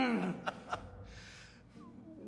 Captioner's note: Professor Sievers laughs